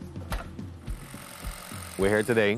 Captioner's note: machine whirring